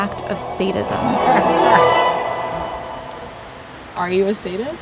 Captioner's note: laughs